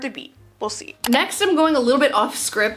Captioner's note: mouse clicking